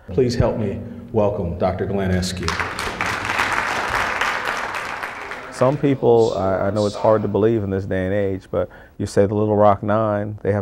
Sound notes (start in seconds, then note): 2.4 applauding